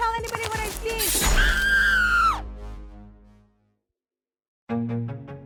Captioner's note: knife sheathing; jogger screaming; curious music